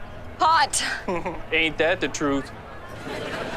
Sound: chuckles

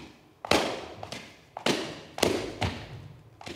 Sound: feet stomping

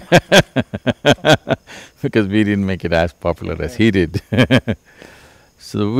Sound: laughter; laughs

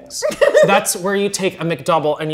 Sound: laughs

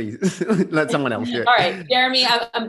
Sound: laughs

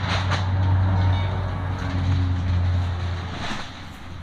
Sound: ominous wind moaning

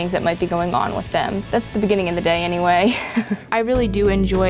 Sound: chuckles

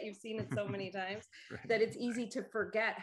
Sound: chuckles

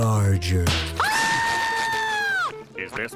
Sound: shrieking

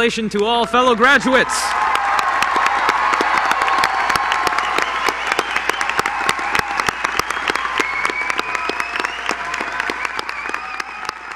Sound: applause

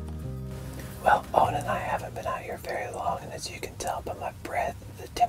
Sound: whispering

